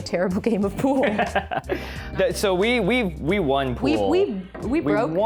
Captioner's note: laughs